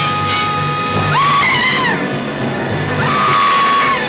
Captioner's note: screaming; buzzing